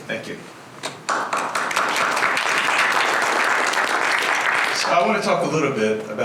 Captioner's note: applause